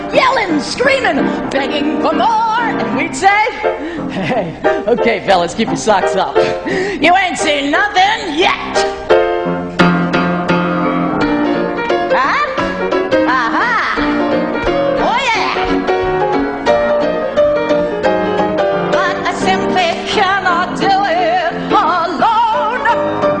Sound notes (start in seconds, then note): 9.1 upbeat jazz music; 12.2 Velma vocalizing; 16.0 upbeat jazz music